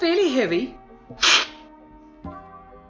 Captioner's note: slurping